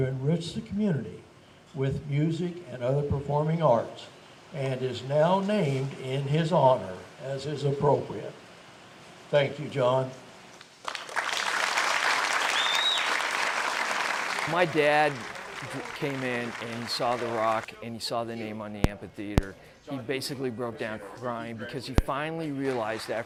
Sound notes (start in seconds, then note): 10.8 clapping